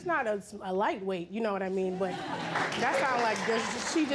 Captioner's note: audience applauding